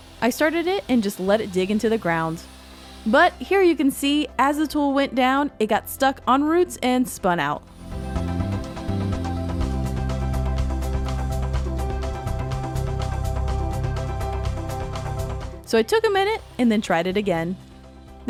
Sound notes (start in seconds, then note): 7.3 upbeat music; 7.7 digger whirring